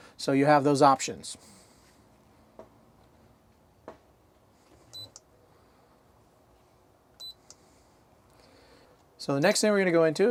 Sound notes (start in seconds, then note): 4.9 beeping sound